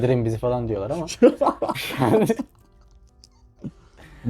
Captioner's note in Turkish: kahkaha